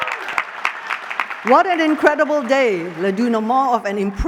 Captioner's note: applause